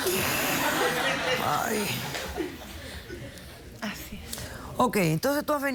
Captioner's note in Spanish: risas